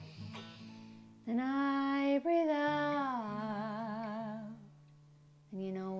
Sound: 1. guitar slides down 2. deflates balloon